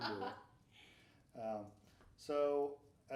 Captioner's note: laughing